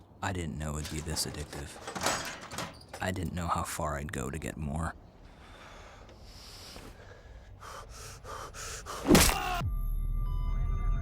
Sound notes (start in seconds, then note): 7.1 exhaling loudly; 9.1 hummer smashing